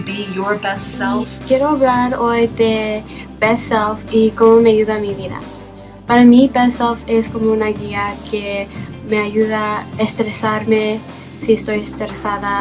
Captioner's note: speaking spanish